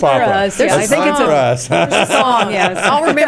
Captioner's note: laughing